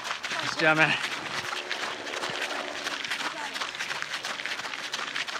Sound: footsteps crunching on gravel

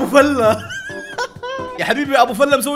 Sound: laughs

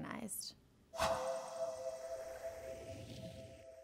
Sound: swipe sound effect

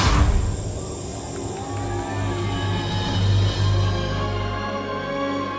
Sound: audience applauds; dramatic music

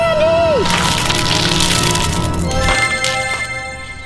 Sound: candy falling on the ground

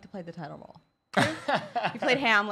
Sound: laughter

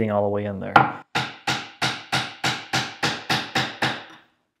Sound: hammer banging

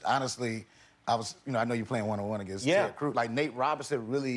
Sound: none

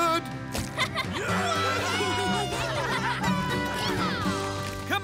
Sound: cheering

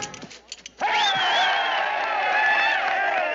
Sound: crowd cheering

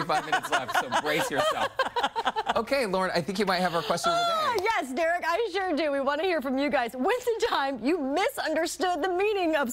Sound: laughter

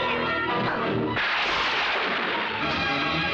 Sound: thunder crashing

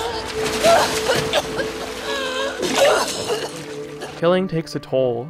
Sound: Abby gasps for air; Ellie screams

